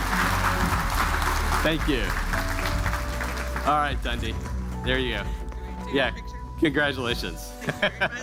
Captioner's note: cheers and applause